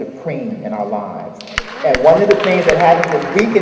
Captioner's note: audience applauding